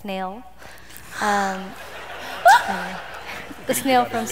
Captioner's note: laughter